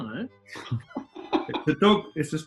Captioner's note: laughter